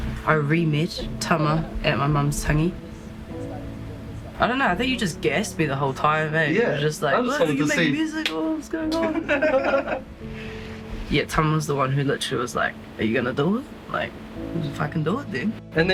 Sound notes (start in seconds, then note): 8.9 laughs